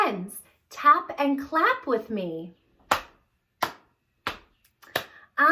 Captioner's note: clapping